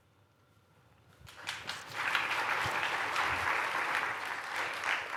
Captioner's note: applause